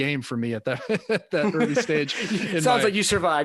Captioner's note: laughing; laughs